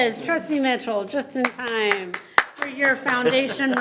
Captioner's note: members clapping